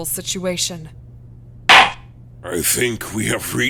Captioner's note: gavel slams!